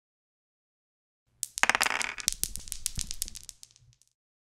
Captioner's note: dice rolling